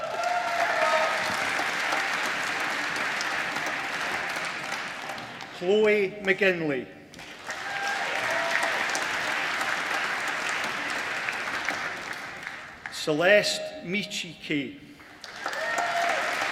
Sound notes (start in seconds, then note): 0.0 applause; 7.1 applause; 15.0 applause